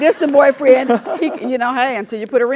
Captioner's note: laugh